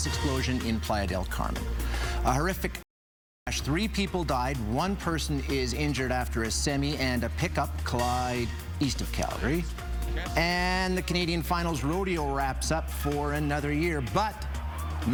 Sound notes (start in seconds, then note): none